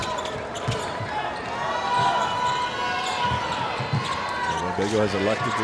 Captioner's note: audience cheers